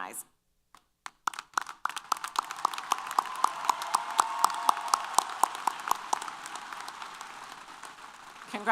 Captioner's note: applause & Cheers